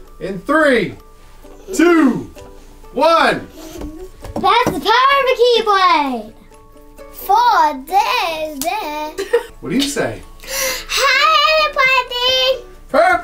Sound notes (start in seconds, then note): 3.5 giggling; 9.1 laughs